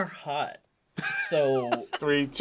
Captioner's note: React laughs